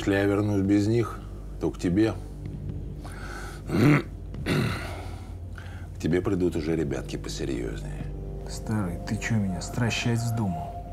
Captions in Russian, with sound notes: Если я вернусь без них, то к тебе (откашливается) К тебе придут уже ребятки посерьёзней. Старый, ты чё меня стращать вздумал?